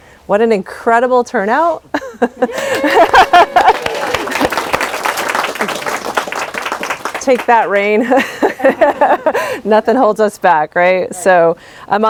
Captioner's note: applause and laughter